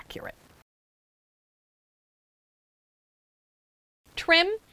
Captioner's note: no Sound Present